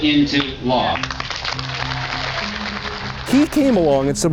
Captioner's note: audience applauding